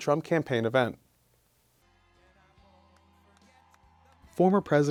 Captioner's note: silence